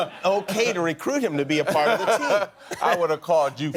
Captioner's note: laughter